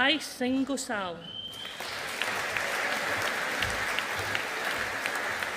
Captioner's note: audience applauding